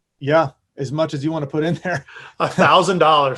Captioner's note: chuckles